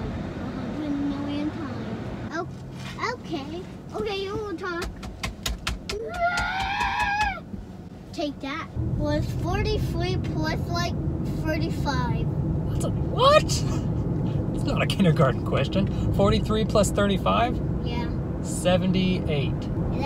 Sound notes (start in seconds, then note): 5.9 screaming